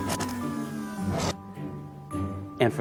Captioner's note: machine whirring